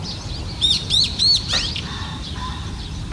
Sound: bird chirping

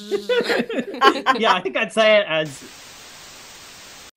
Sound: static

